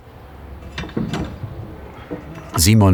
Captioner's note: clattering